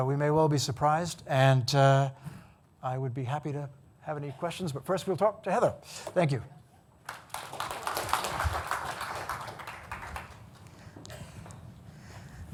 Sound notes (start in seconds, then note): 7.0 audience applauding